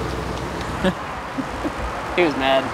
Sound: laughs

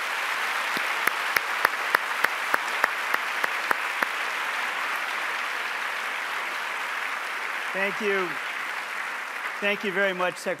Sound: applause

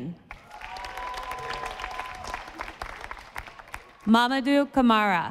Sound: audience applauding

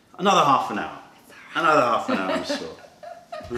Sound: laughter

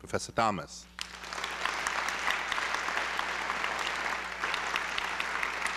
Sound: applause

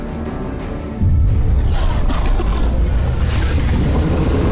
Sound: creature growling

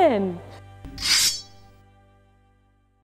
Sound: metal clanks

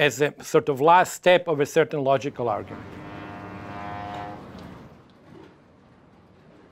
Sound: ship engine roaring

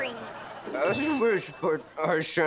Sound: strained

